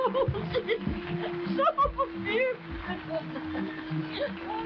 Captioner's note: chuckling; laughing